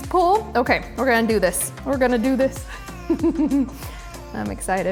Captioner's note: laughs